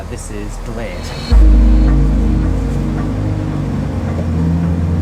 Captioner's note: train Engine Revving